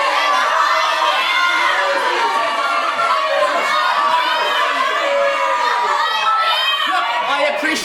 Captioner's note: audience screaming, “They’re behind you!”